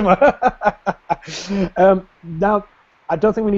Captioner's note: laughs